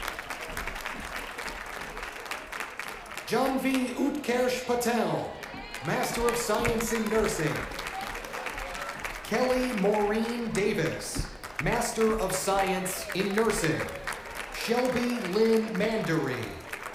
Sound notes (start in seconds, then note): 0.0 cheers and applause